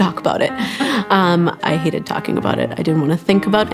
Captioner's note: laughs